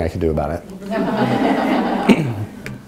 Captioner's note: audience laughing